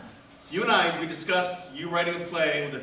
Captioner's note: none